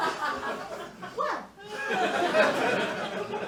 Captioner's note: sweetly